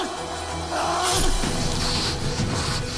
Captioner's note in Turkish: Kılıç Girme Sesi